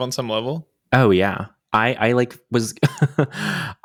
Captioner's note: chuckles